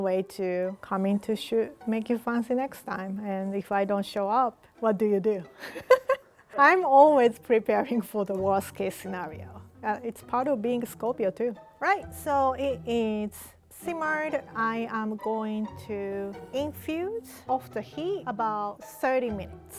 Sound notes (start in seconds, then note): 5.6 laughing